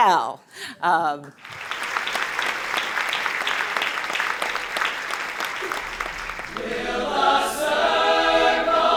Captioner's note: applause